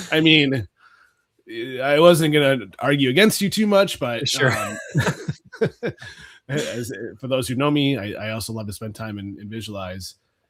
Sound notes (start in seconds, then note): 4.2 both laughing